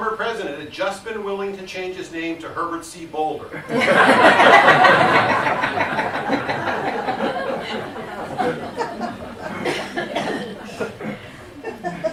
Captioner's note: laughter